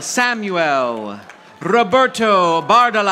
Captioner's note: audience applauding